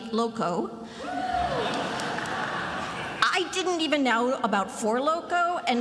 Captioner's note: attendees laughing